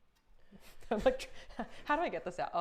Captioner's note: Safiya laughing quickly